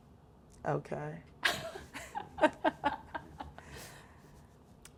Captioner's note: group laughing